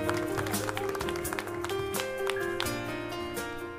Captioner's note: cheering and applauding